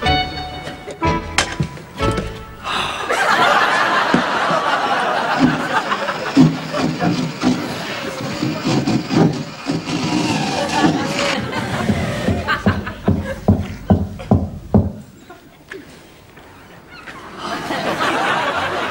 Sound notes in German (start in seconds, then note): 5.4 Bohren, Klopfen; 11.7 Knacken und Bohren geht weiter